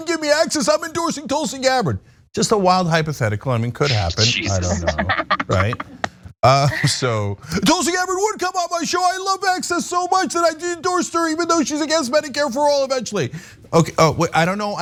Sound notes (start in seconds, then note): 3.8 laugh